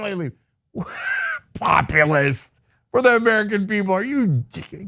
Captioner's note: laugh